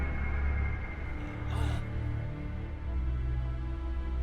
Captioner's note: Arlo groans